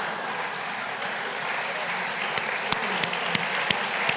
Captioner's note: laughter; applause